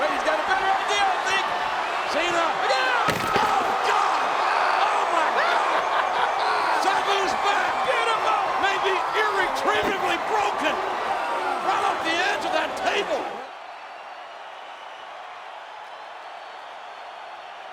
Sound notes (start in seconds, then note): 5.8 Jerry laughing; 13.8 spectators cheering